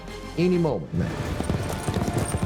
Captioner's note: horses running